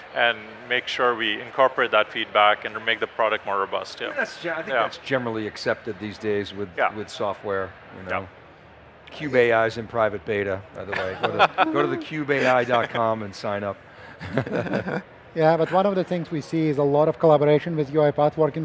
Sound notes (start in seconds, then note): 10.9 panel members laugh; 14.0 laughs